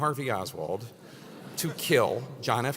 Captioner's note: laugh